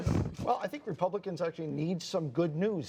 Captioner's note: laughter